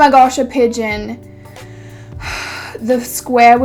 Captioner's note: sigh